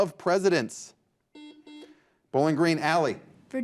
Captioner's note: buzzer buzzes